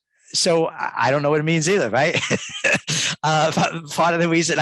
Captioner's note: laughs